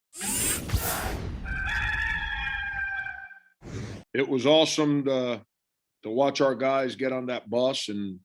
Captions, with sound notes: (rooster crows) - It was awesome, to watch our guys get on that bus,